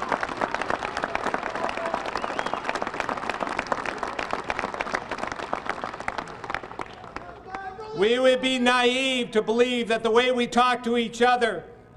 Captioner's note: applause